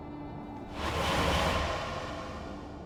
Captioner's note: teleportation sound